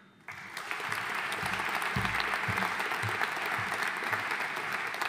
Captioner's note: audience applauding